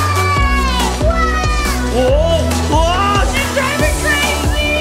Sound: yelling

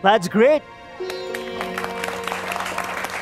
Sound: applause

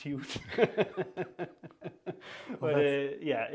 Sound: laughter

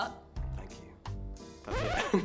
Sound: record scratch; chuckles

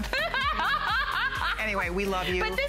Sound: laughter

